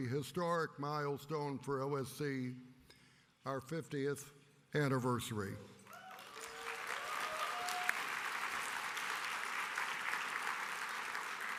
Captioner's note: applause